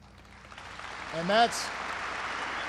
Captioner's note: applause